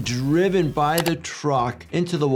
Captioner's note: graphics clicking